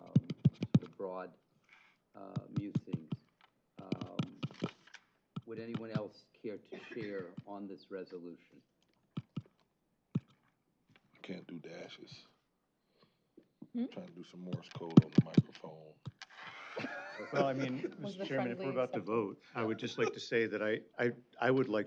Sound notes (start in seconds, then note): 16.4 chuckle